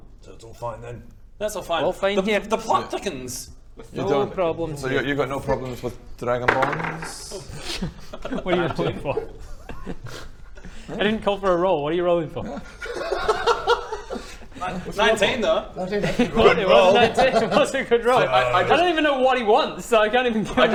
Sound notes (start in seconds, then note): 12.4 laughs